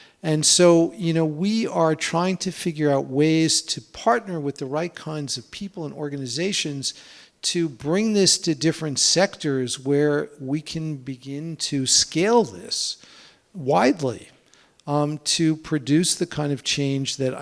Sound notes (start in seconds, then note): none